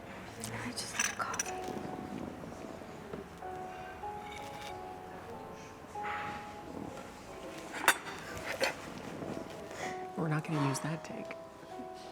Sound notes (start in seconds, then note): 4.0 dishes clattering; 8.8 laughing